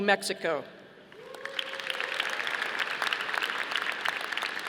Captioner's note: audience applauding